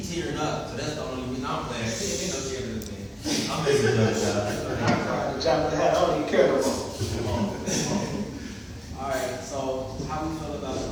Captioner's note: laughter